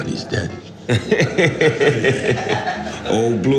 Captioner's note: laughing